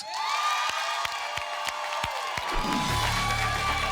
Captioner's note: cheering and applause